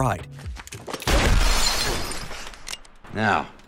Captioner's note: gunshot